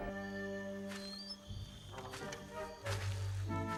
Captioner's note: creaks